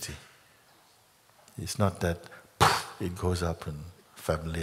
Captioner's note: poof!